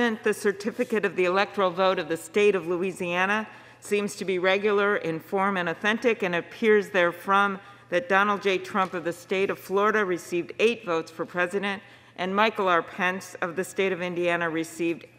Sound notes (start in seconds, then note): none